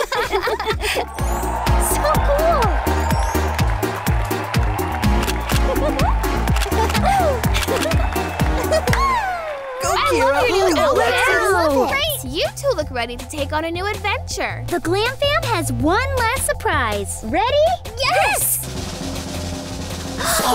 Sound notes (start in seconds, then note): 0.0 laughing; 3.5 audience cheering; 3.5 camera snapping; 18.6 drum rolling